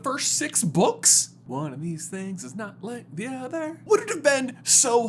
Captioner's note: sing-song